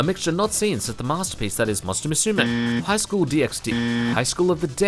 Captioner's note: incorrect buzzer